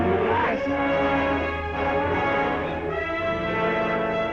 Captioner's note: screams